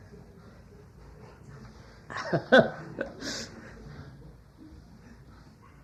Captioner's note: laughs